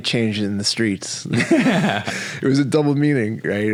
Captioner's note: both laughing